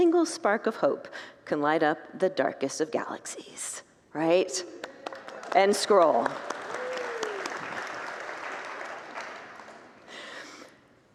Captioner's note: congregants whoop and applaud